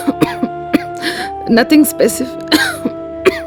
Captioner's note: coughs